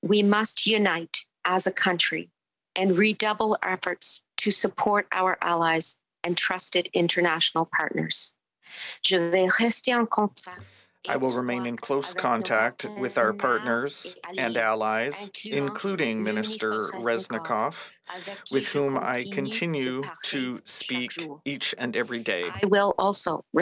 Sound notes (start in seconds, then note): 16.6 speaking French